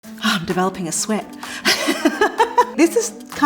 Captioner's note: chuckles